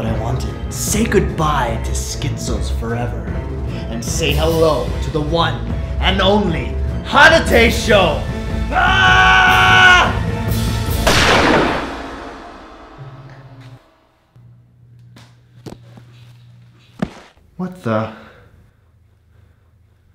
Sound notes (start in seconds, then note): 8.7 screaming; 11.0 gunshot